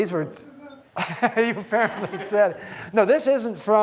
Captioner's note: laughs